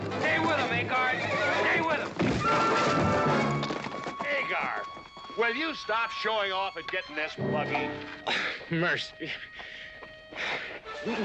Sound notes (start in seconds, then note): 2.2 thump